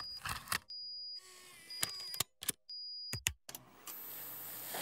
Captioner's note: video tape charging